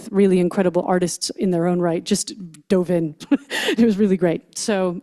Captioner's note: chuckles